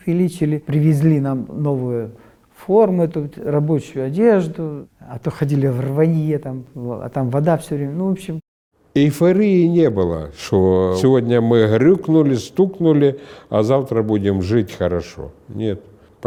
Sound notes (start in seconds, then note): none